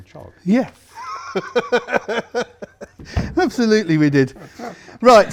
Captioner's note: laughs